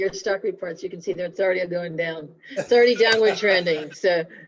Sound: laughter

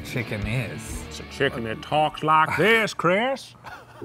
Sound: attempting a Southern accent

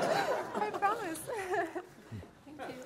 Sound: audience laughs; voiceover; laughing

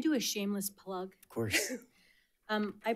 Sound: chuckling

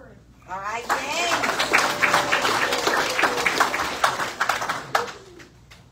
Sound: cheers and applause

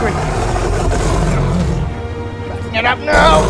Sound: Ankylosaurus Sounds

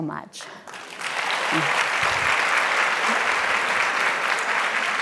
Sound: audience applauding

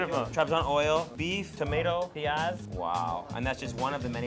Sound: speaks in foreign language

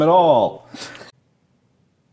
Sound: scoffs

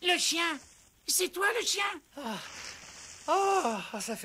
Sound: gasps

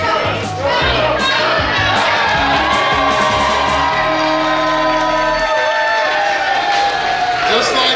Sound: cheering

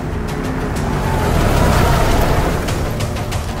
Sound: vehicle Screeching

